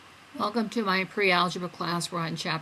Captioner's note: voiceover